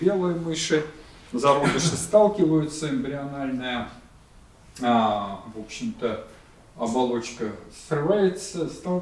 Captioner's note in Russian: откашливается